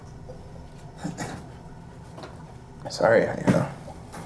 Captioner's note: Miles coughs